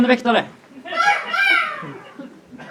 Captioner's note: seagull caws